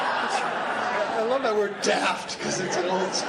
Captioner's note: laughs